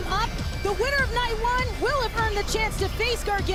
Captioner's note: none